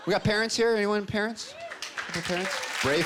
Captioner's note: cheering